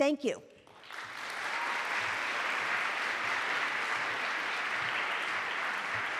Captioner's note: applause